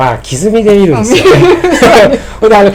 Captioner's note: laughing